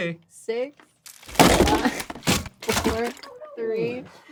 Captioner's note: crashing